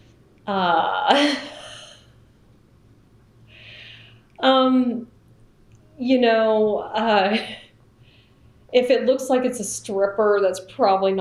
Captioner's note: laughs